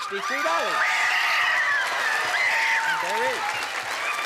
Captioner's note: screaming